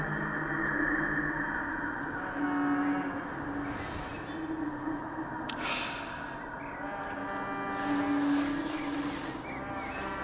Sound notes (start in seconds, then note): 3.2 breathing in air